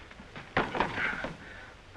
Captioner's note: object clattering